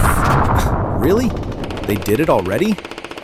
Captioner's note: scoffs